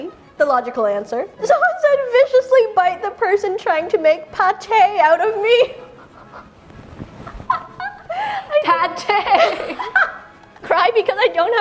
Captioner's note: laughs